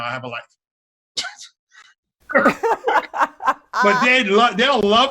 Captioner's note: both laughing